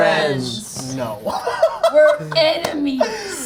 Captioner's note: laughs